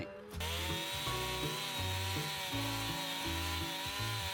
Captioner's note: chain saw whirs